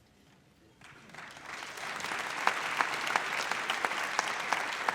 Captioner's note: audience applauds